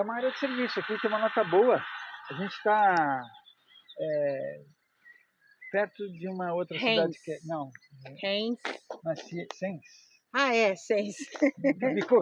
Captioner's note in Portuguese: risadas